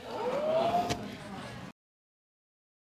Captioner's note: audience exclaiming